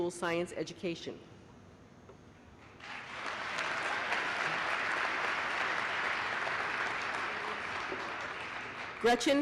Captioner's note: applause